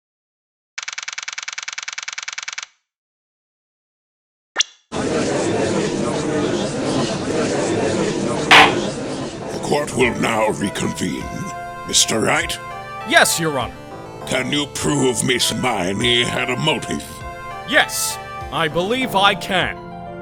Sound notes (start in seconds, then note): 5.0 gallery chattering; 8.5 gavel slams!